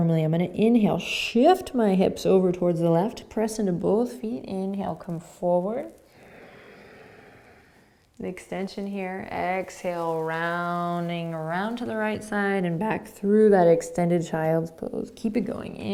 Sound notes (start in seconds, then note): 6.1 inhaling